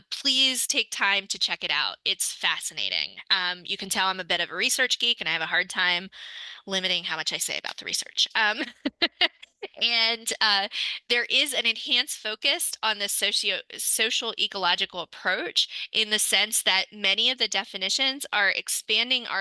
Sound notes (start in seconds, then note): 8.6 laughs